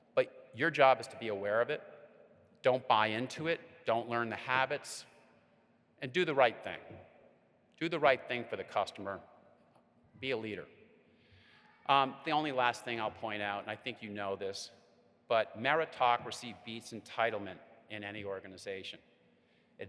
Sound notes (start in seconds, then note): none